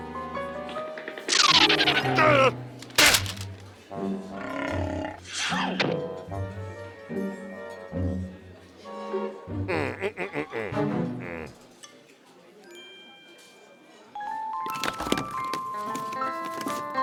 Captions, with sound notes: (feet pattering) (feet skidding) DAH! GAH! (stomach growling) MM. MM-MM-MM-MM. MM.